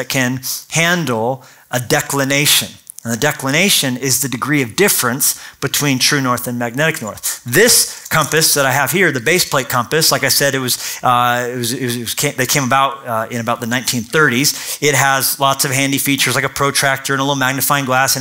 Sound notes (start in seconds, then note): none